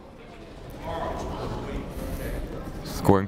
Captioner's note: people talking in the crowd